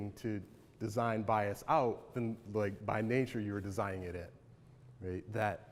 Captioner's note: none